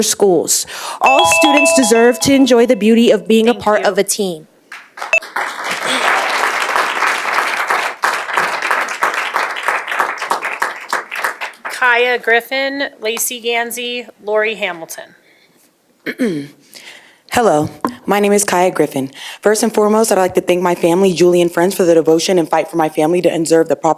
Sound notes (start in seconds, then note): 7.9 applause